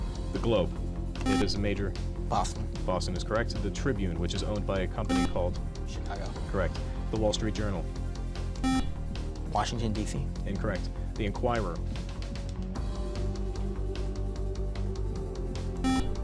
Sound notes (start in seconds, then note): 1.2 beep; 8.6 beep; 15.8 beep